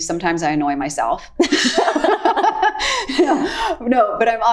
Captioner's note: both laughing